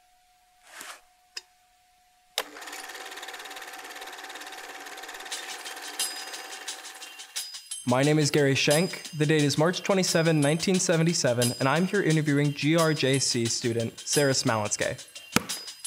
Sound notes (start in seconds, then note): 2.4 classic projector running; 5.4 hip-hop beat